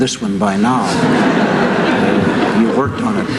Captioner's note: laughter